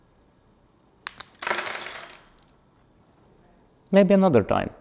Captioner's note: Legos clattering